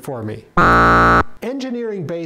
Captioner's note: buzzer